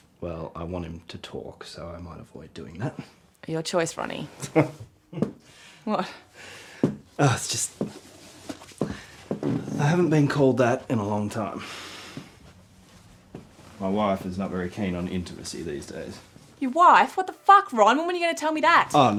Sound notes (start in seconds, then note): 4.4 Ron chuckles